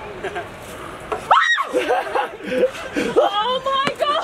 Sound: screams

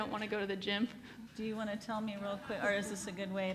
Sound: laughs

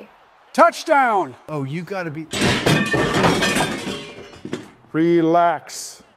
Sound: glass shattering

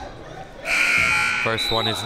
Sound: buzzer sounding

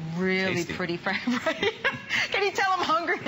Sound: laughter

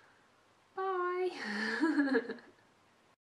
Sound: laughs

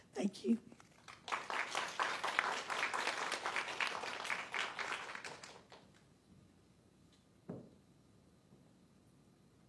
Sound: applause

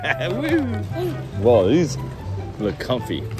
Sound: laughing

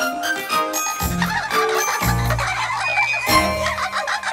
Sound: laughing

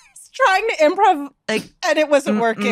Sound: laughs

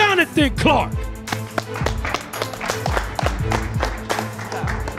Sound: hands clapping

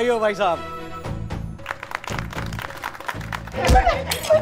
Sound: clapping

